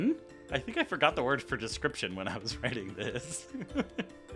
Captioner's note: laughs at self